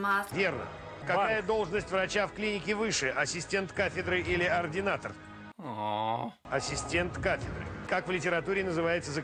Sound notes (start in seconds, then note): 5.5 moans